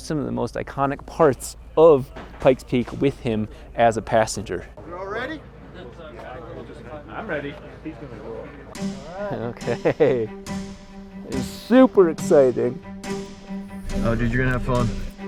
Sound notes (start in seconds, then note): 8.7 suspenseful music; 9.5 laughs